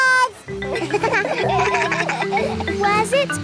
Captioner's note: kids laugh